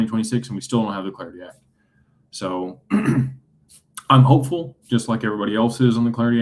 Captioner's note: clears throat